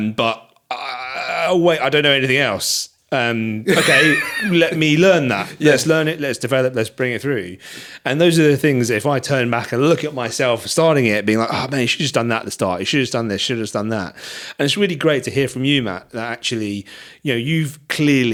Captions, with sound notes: But, oh wait, I don't know anything else. (laughing) Let me learn that, let's learn it, let's develop, let's bring it through. And those are the things, if I turn back and look at myself starting it, being like, "Oh man, you should've done that at the start, "you should've done this, you should've done that." And it's really great to hear from you, Matt, that actually, you know, you've clearly,